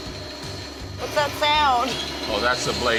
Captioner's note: grinding sound